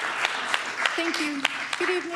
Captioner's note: applause